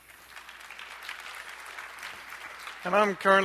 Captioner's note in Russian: аплодисменты